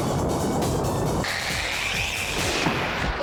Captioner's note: imitates rocket blasting off